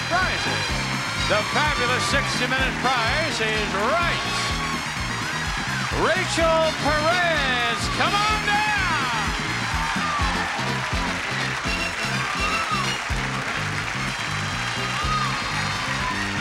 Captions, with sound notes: the fabulous 60 minute "Price is Right." Rachel Perez, come on down. (upbeat music) (audience applauds)